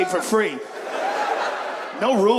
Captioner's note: audience laughs